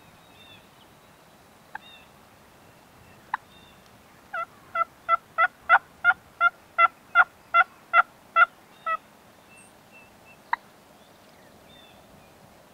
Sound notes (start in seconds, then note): 3.4 calling continues